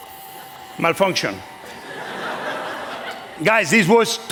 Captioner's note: laughter